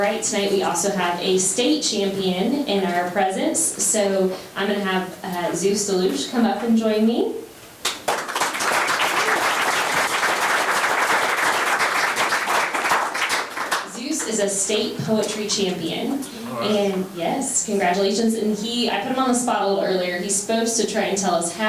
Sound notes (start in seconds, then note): 7.8 members applauding